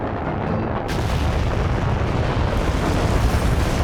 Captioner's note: rocket exploding